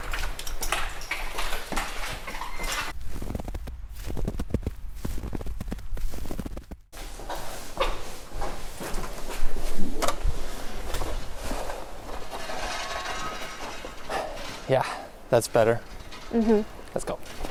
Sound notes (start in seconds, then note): 12.4 snow shoveling sounds